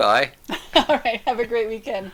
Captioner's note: laughing